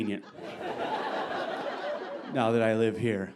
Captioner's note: audience laughing